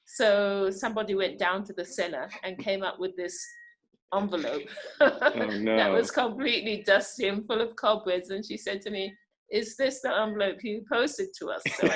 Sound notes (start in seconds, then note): 4.3 laughs